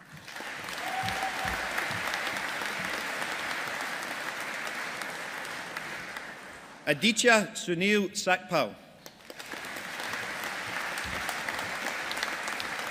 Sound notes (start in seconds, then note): 0.0 audience applauding; 9.0 audience applauding